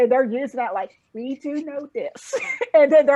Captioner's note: laughing